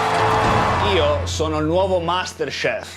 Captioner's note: Fala Italiano